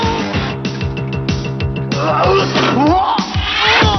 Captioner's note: grunts